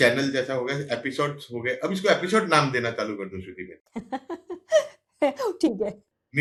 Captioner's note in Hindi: हंसी